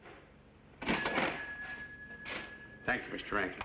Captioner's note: cash register rings